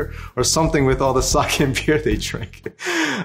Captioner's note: laughs